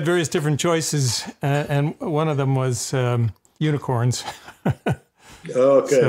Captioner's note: laughs